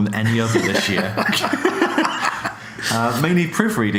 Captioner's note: laughs